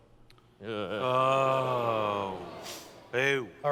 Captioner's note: groans